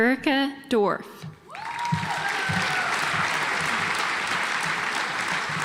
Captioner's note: audience applauds